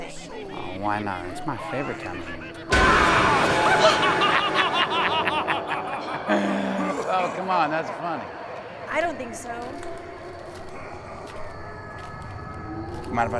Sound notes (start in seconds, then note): 2.8 air whooshing; 3.1 doll cackling; 3.6 Brad laughing; 10.8 Halloween decorations howling